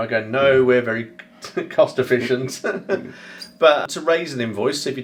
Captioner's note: laughing